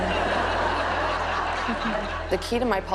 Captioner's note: audience laughs